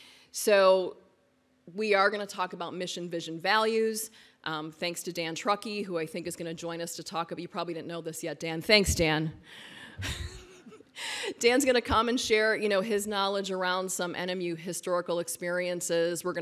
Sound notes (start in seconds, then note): 10.0 laughs